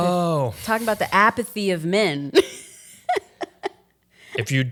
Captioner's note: chuckles